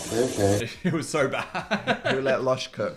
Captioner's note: laughs